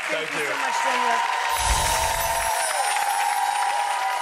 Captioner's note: audience cheering; magical music